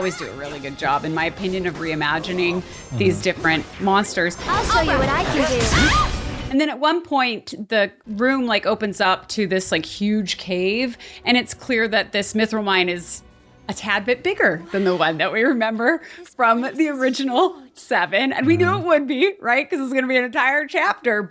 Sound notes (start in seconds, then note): 5.7 screams